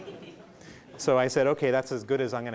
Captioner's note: laughing